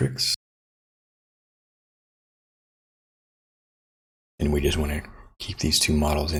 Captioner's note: silence